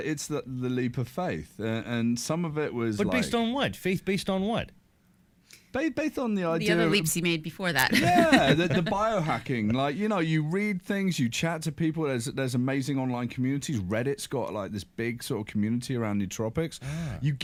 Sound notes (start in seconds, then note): 7.8 laughs